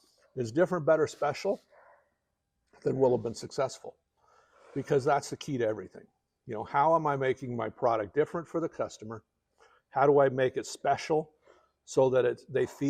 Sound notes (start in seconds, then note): none